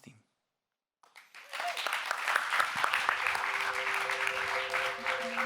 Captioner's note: audience members applauding; gentle electronic music